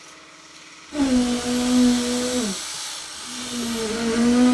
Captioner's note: machine revving